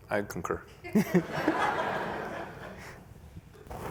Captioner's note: laughter